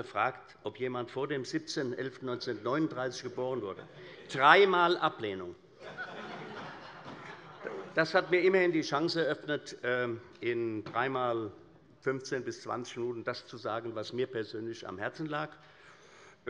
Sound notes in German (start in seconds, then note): 5.8 Allgemeine Heiterkeit